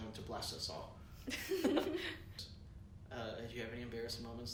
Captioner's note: laughter